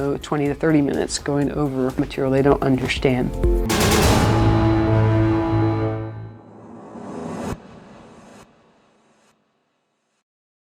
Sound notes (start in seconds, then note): 3.7 upbeat music; 6.3 air whooshes